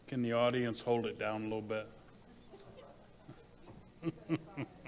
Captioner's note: laughs